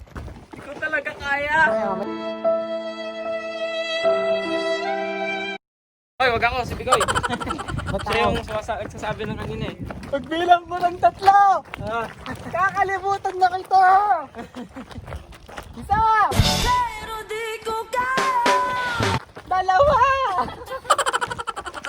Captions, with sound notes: I can't do it anymore. [sad violin] Hey not me. Film Vicoy. He was talking about it awhile ago. In the count of 3, I'm gonna forget about you. 1 [sad music] 2 (voice cracked)